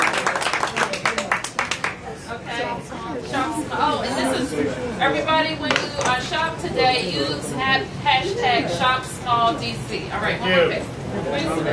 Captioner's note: cheers and applause